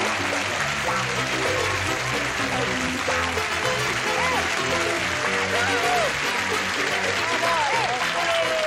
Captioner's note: cheering